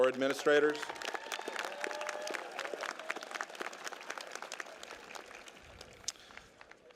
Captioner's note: applause